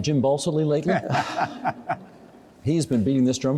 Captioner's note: chuckling